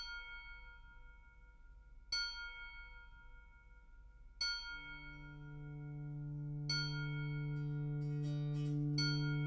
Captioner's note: bells chiming